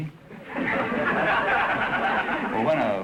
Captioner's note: audience laughter